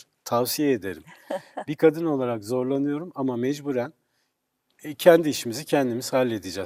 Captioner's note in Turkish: kahkaha